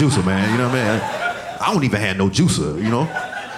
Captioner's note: audience laughing